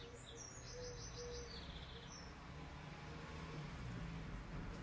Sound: bird song

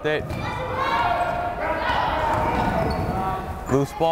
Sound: crowd cheering

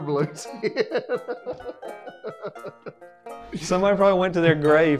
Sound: laughing

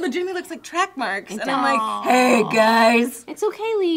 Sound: deep voice

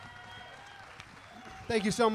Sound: audience applauding and cheering

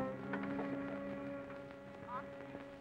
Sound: on phone

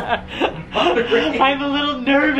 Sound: laughing

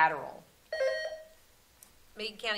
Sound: buzzer sounding

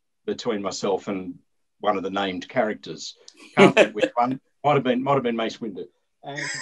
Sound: laughter

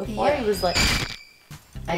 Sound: bone cracking

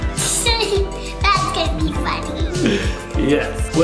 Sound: laughs

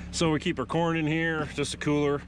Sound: boat engine running

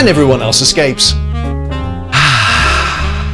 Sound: deep exhale of peace and relaxation

